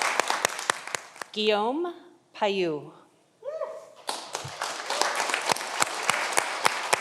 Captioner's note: audience applauding